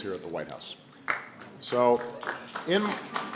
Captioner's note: applause